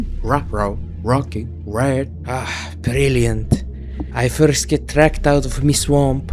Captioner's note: gruff Scottish burr